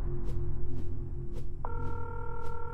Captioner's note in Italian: squilla il telefono